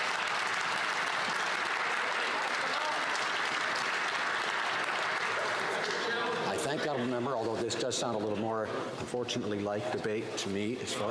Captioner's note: some Applause